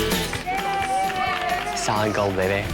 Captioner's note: upbeat music; cheering